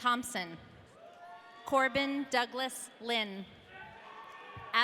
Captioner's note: audience cheering